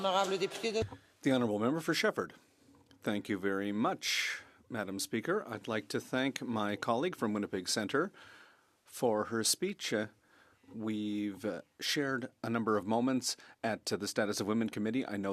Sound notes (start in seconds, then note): 6.4 speaking French